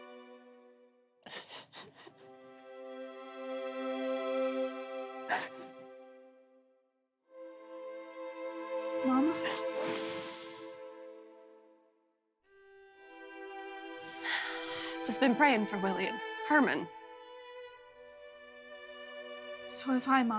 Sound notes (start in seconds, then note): 0.0 sniffling, crying; 3.3 crying